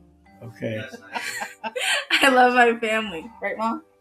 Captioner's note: laughing